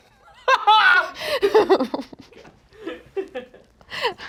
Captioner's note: laughs